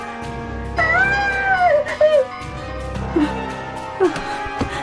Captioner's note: Barbra yelping; suspenseful music